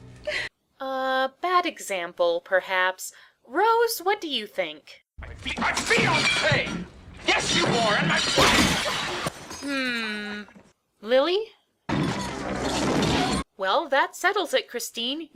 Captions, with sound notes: -Uh, bad example perhaps Rose, what do you think? -My fi-my fiance! Yes you are, and my wife! [glass shatters] -Hmm Lilly? -[things breaking] -Well that settles it, Christine